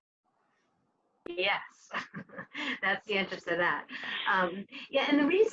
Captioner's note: laughs